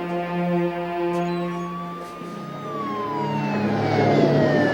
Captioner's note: siren blaring